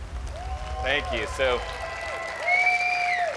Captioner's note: crowd cheers